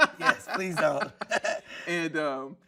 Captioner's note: laughing